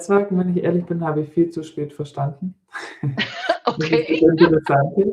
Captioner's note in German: gelächter